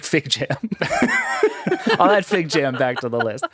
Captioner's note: laughing